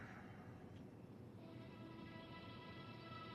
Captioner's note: Ted sighing